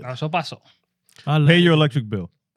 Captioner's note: speaking In Foreign Language